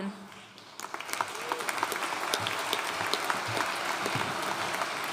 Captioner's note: audience applauding